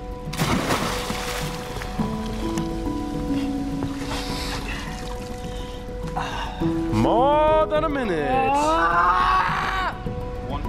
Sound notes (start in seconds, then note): 0.3 water splash; 6.2 gasps; 8.3 yells